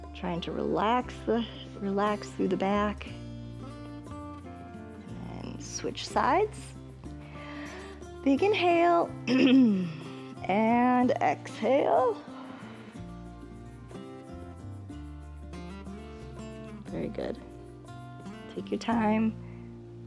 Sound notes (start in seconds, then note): 7.2 inhales; 9.4 clearing throat; 12.2 exhales